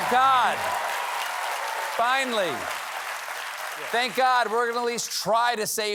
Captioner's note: cheers and applause